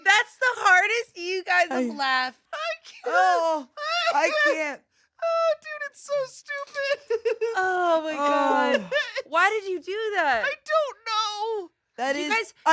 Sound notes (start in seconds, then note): 3.2 laughs